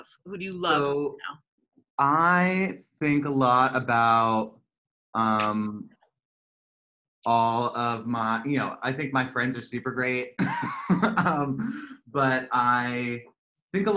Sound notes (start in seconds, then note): 10.3 laughter